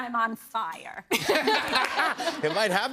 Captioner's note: laughter